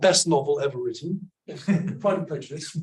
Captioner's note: audience member laughs